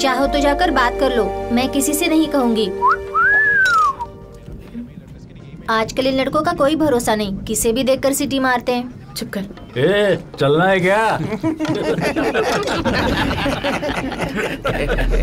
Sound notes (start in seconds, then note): 2.8 whistling; 11.2 laughing loudly